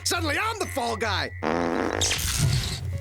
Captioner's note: breaking wind